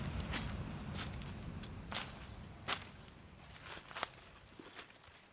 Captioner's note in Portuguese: Passos sobre folhas secas